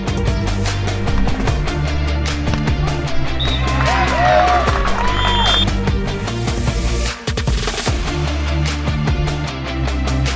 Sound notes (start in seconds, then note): 2.7 crowd cheers